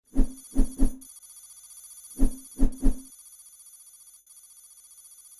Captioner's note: sounds of computer analysis